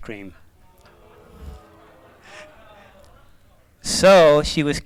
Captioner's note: laughter